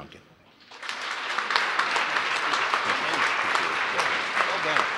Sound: applause

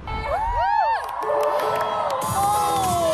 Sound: applause from happiness

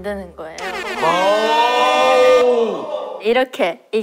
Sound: exclaiming

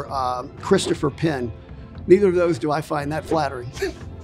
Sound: laughs

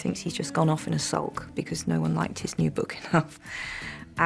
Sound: chuckles

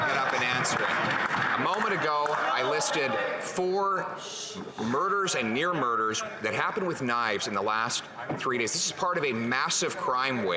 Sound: heckling

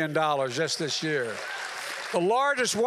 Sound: applause

